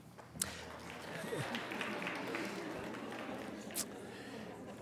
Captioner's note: light applause